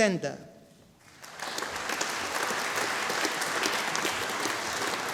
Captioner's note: audience applauding